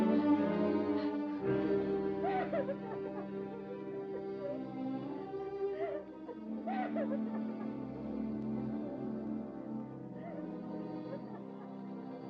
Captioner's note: dramatic music; Rosalinda sobs